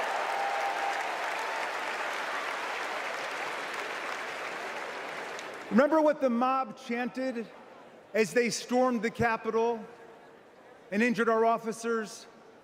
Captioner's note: applause